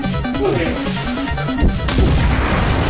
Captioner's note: bomp; static; whoosh; boom!